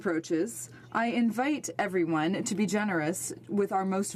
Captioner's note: speaking French